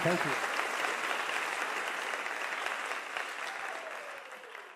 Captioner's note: audience cheers